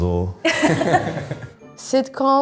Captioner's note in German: Lachen